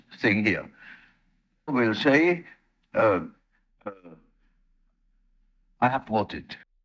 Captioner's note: a grunt